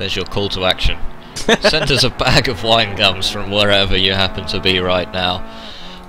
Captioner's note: laughing